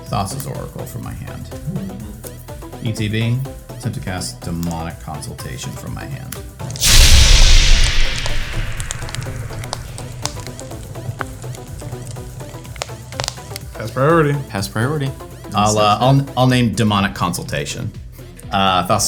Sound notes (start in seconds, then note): 6.7 whooshing and crackling